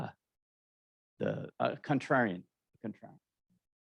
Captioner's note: murmurs